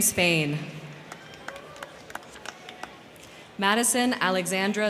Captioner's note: crowd cheering; crowd clapping